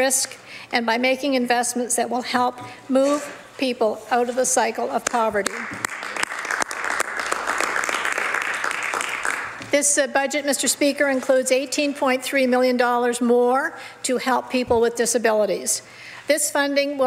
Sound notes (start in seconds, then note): 8.9 some Applause